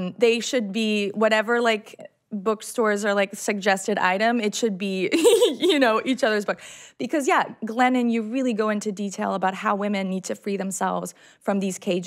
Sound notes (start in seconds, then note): 5.1 chuckles